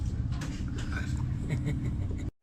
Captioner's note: is chuckling